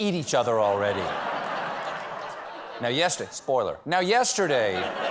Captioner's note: laughter